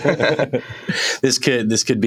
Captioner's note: laughter